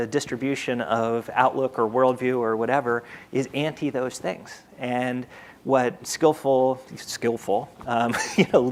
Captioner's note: panelist laughs